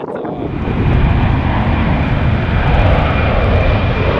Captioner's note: aeroplane whirring